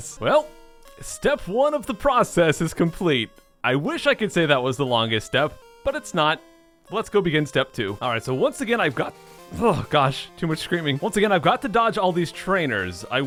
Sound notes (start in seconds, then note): 3.4 with subtle rage; 9.5 clears throat